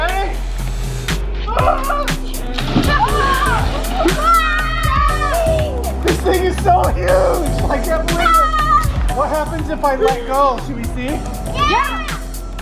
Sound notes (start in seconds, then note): 1.7 water splashing; 2.8 children yelling; 8.0 children yelling